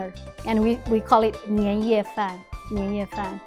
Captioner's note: speaking Mandarin